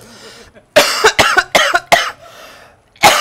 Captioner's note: coughs